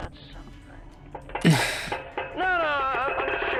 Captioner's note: sigh